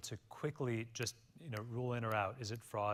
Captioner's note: snaps fingers